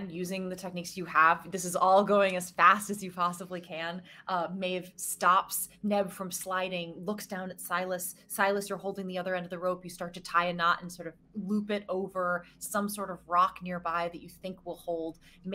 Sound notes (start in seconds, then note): none